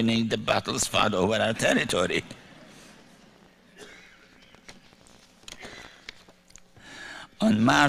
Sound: light laughter

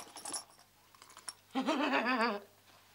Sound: Sandra laughs

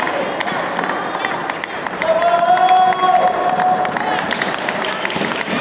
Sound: applause

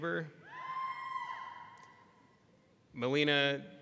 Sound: people screaming

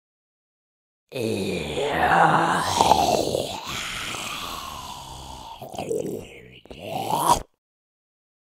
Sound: monster sound fx

